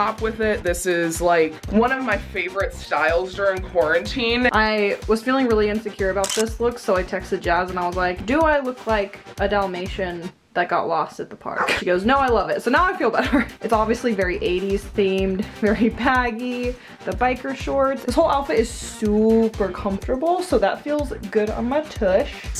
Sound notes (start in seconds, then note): 6.2 camera snaps; 13.3 chuckles